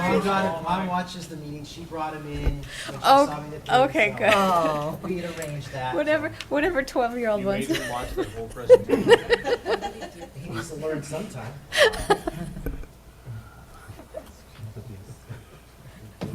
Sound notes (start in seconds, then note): 11.7 laughter